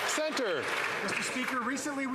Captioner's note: some Applause